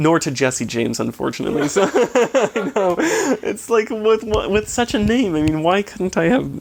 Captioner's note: chuckling